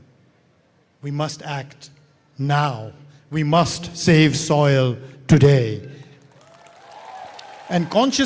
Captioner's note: cheering/Applause